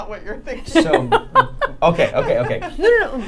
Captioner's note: laughing